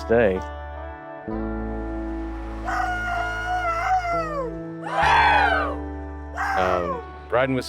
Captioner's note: biker makes whooping cry. Other riders join